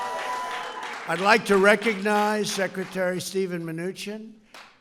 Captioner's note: applause